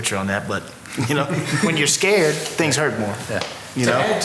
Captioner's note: laughter